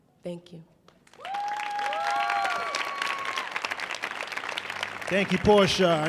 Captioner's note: audience cheering